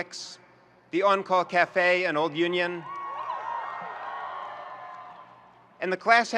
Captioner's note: audience cheering